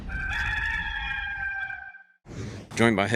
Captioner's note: rooster crowing